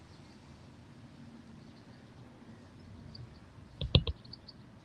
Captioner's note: birds chirping